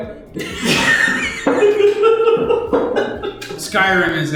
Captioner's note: laughter